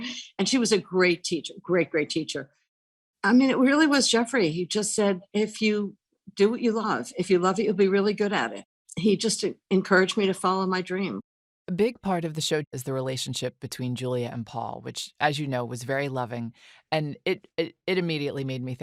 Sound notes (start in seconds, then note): none